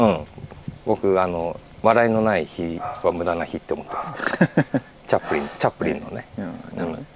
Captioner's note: laughs